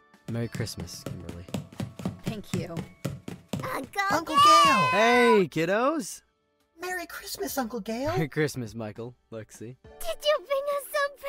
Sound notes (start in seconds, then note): 4.2 running